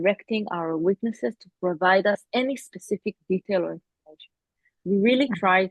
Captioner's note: audio distorts